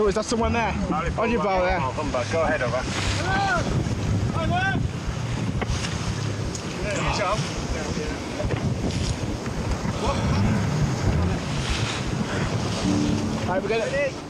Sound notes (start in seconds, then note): 5.5 waves roaring; 7.0 people chattering; 7.0 waves roaring